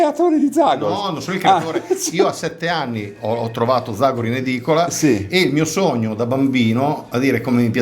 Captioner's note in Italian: risate